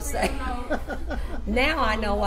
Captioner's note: laughs